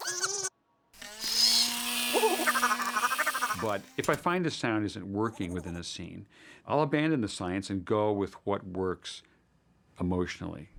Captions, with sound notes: (WHIRRING) (CHATTERING) But if I find a sound isn't working within a scene, I'll abandon the science and go with what works emotionally.